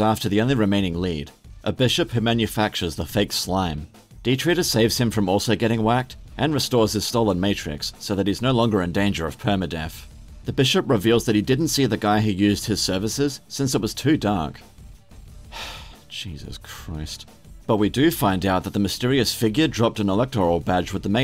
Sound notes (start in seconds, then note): 15.4 sigh